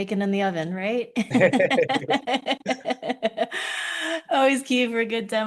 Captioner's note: laughing